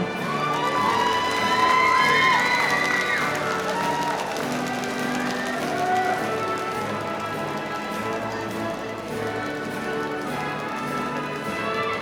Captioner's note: applause